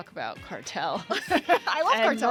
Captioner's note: laughter